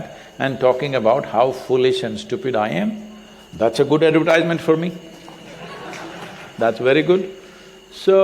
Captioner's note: laughter